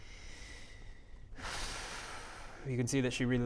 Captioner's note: exhales